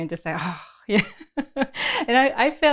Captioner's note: laughs